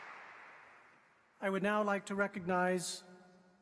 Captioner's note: applause